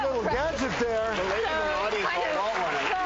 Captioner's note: audience clapping